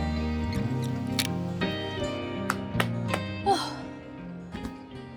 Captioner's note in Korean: 짝짝짝